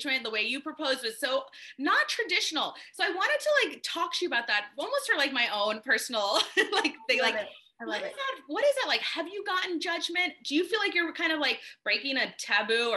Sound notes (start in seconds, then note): 6.6 laughs